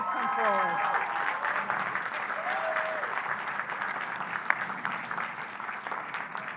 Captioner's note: audience applauding and cheering